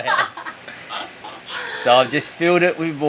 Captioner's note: laughing